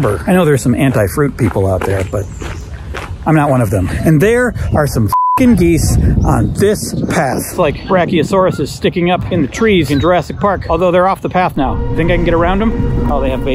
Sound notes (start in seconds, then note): 5.1 beep; 11.5 suspenseful music